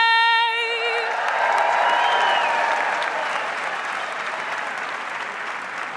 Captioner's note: audience applauds and cheers